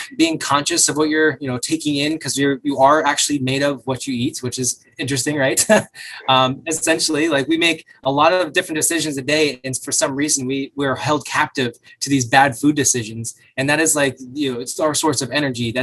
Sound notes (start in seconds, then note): 5.1 laughs